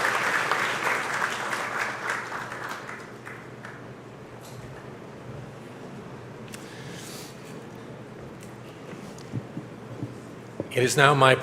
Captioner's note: applause